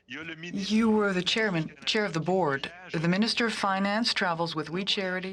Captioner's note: speaking French